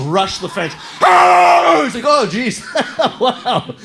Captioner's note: ferocious barking